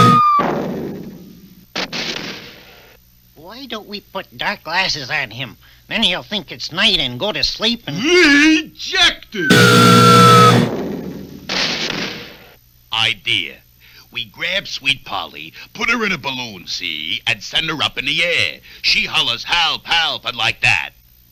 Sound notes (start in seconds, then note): 0.0 buzzer Sounds; 1.8 crash!; 9.4 buzzer Sounds; 11.4 crash!